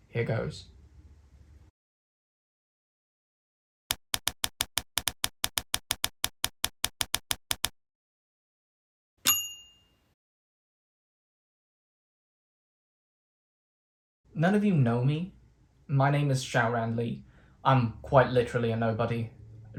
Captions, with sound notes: Here goes [Typewriter sounds] [Typewriter bell dings] None of you know me My name is Syaoran Li I'm quite literally a nobody